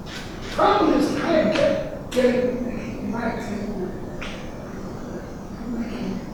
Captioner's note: rustling drowns out speaker